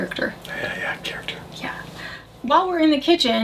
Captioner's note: whispers